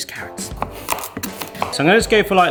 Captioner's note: knife banging